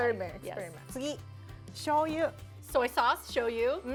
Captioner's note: speaking Japanese